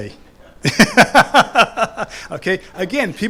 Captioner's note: laughs